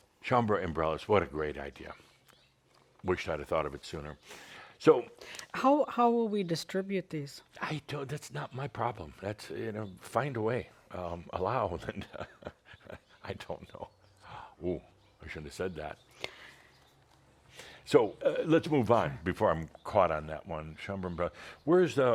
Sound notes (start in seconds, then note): 11.8 Adamus chuckles